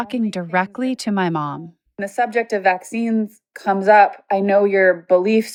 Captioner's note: on Zoom call